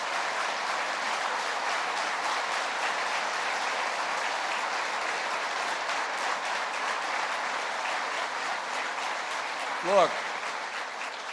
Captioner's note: applause